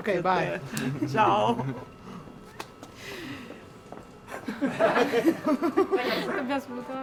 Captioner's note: laughing